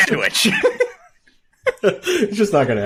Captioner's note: laughing